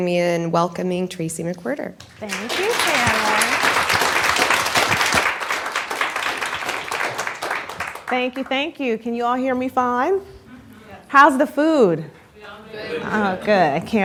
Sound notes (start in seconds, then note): 3.8 applause